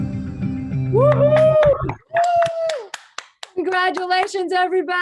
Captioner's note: cheering